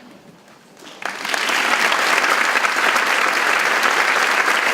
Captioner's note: audience clapping